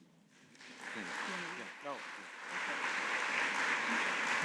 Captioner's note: audience applauding